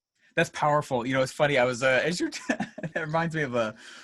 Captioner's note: laughs